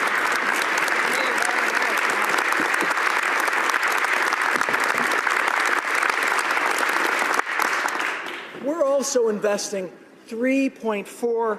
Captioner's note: applause